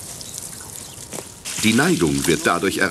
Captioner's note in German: Arbeitsgeräusche